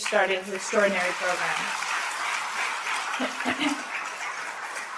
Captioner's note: applause